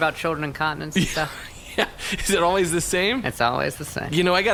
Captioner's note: laughing